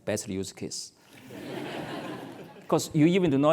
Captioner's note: laugh